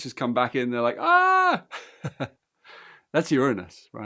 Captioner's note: screams, laughs